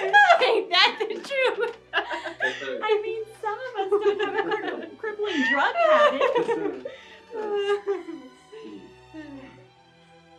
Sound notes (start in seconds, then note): 2.1 awkward Chuckling; 7.3 laughter Dies Down